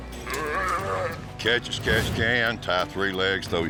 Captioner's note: calf moos